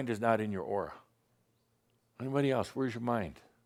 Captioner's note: none